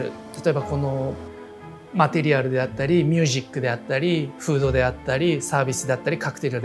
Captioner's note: continues speaking Japanese